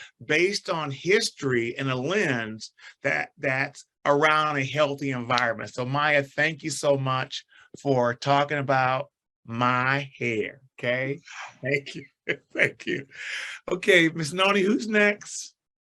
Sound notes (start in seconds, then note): 12.9 chuckles